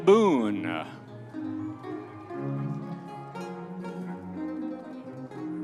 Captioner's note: audience members cheering